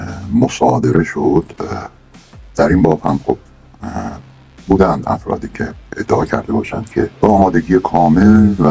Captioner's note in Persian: صدای ناله